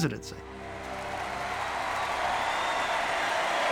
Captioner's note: audience cheers and applauds